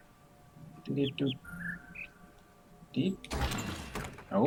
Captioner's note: bird chirps high-high-low-mid